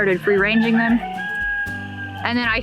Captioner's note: rooster crows